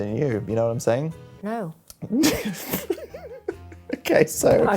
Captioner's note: laughing